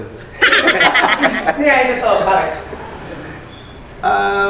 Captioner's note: laughing